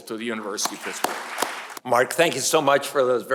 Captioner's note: audience applauds